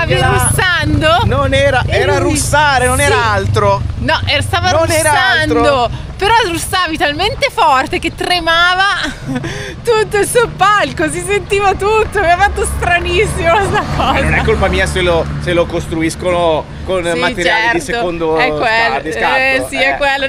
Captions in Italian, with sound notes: stavi russando? Non era, era russare. Non era altro. No, stava russando, però russavi talmente forte che tremava [risate] tutto il soppalco, si sentiva tutto. Mi ha fatto stranissimo sta cosa. Non è colpa mia se lo se lo costruiscono con materiali di secondo di scatto. Eh, sì, è quello.